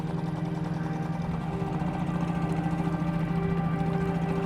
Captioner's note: boat engine droning